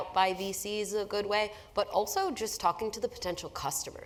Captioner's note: none